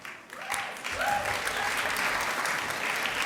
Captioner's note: applause